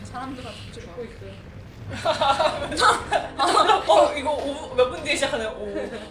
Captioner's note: adamant